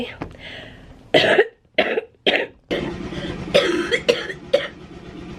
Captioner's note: coughing